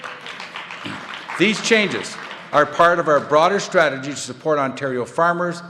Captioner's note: applause